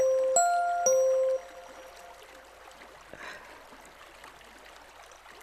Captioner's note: phone beeps